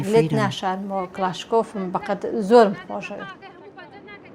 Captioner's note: Kurdish spoken audio